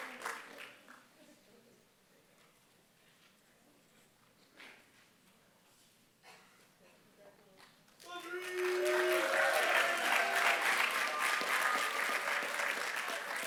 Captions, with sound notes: Congratulations. Sandrine. [APPLAUSE]